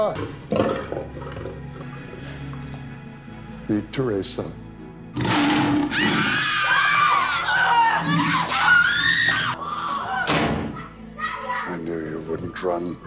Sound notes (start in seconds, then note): 0.1 lion growling; 5.2 lion roaring; 5.8 women screaming